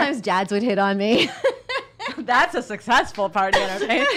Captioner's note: laughs